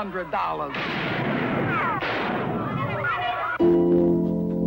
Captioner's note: gunshot firing aggressively; soft music